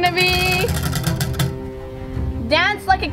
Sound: wheel clanks around metal axle

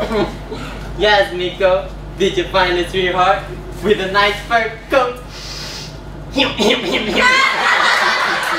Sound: snorts

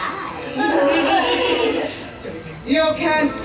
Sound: Mary and Sarah laugh nefariously

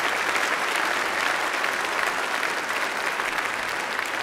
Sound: applause

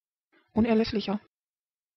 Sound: fast Pronunciation

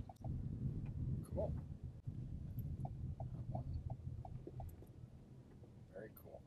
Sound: turn signal stops clicking

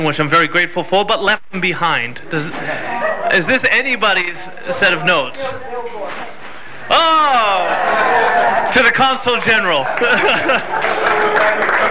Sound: laugher; clapping

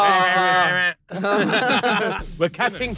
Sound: laughing

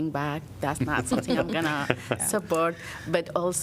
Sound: laughter

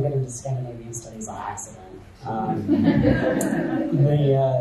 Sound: audience chuckles

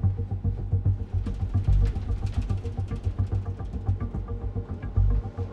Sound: plane lightly shaking

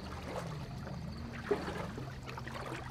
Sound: gently rowing boat in water

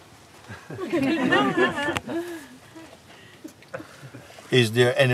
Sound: Lachen

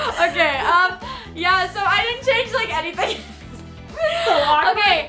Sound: laughs

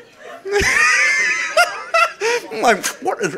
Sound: audience laughing

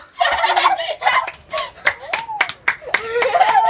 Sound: clapping and cheers

